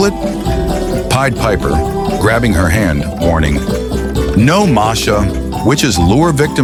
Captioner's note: his voice is serious